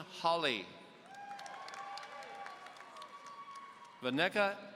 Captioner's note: audience cheering